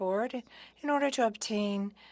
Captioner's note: speaking French